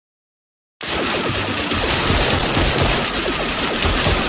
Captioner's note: guns blasting